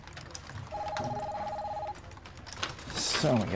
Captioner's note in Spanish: teléfono sonando